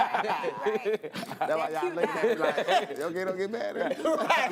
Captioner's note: laughter